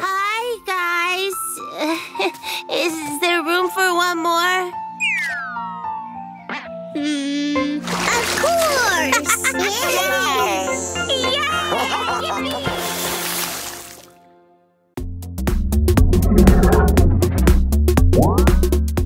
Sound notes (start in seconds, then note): 9.0 giggles; 12.6 splash